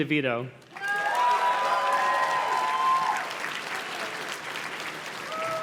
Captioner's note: audience cheers and claps